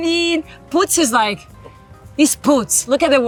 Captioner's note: speaks Portuguese